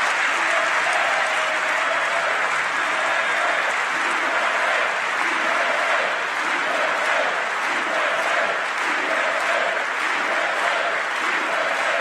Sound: applause

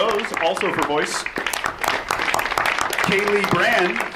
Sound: audience applauds

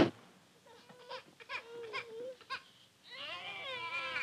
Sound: babies crying

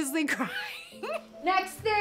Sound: laughing

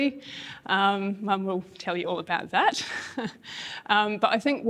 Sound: laughs

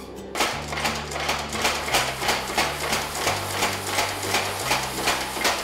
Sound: hammering

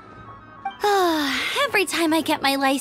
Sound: sigh

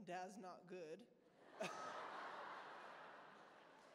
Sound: laughter

